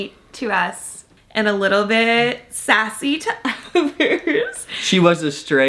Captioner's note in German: lacht